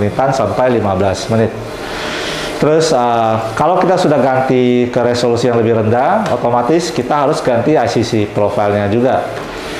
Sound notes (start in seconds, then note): 1.7 inhale